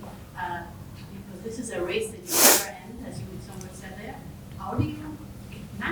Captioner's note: woman speaking faintly